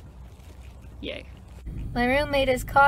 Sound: sarcastically

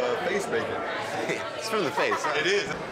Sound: laughs

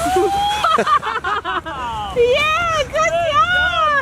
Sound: laughing

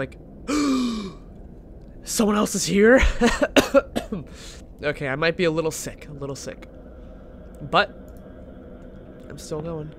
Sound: gasps; coughs

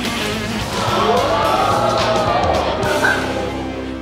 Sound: audience gasping

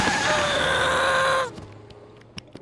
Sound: groaning

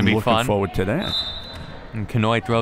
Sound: whistle

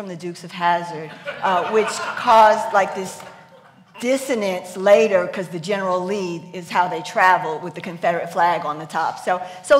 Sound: laughs

